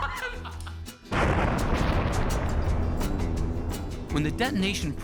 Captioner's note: laughing; loud explosion